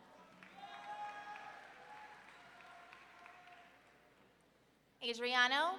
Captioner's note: audience clapping and cheering